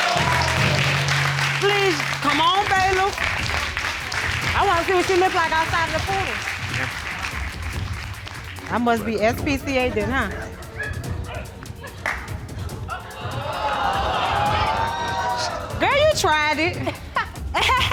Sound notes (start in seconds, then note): 0.2 audience applauding; 12.5 audience exclaiming; 16.4 laughs